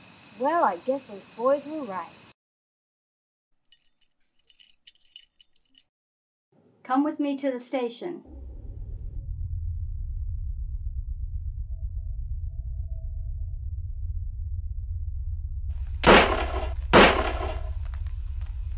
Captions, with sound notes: Well, I guess those boys were right. [handcuffs jingling] Come with me to the station. [eerie music] [gun shots]